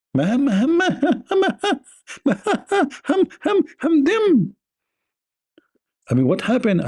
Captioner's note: Ketawa